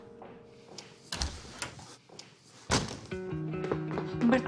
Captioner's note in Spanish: Ruido de una puerta